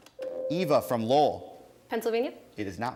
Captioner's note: ding